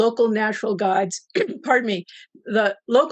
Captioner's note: clears throat